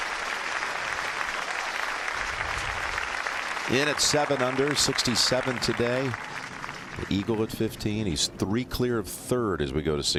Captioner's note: applause